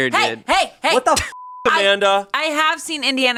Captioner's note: beep